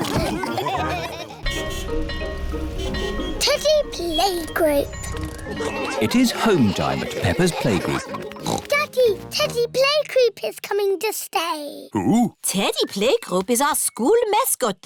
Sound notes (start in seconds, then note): 1.4 car horns beeping; 6.3 oinks